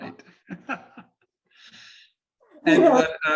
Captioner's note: chuckles